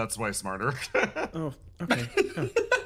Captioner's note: laugh